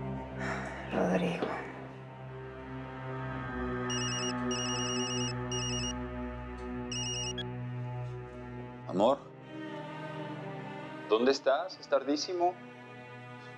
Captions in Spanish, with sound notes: - ¡AH, RODRIGO! [Suena el celular] - AMOR... ¿DÓNDE ESTÁS? ES TARDÍSIMO.